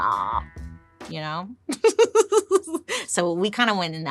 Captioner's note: laughs